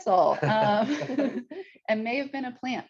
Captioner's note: chuckles